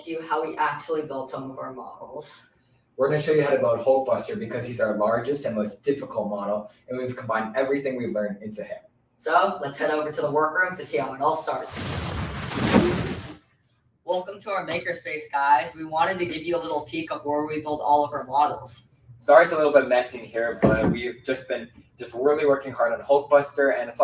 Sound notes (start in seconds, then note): 11.6 whooshing